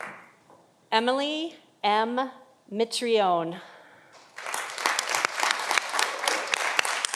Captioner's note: audience applauding